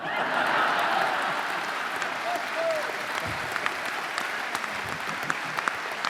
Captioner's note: audience laughing and applauding